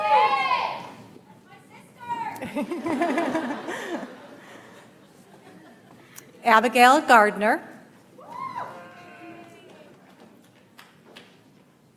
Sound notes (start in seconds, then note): 0.2 audience applauds; 2.4 audience laughs; 9.2 audience applauds